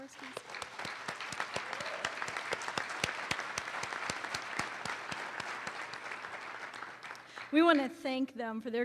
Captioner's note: applause